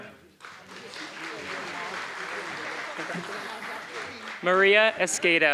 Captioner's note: applause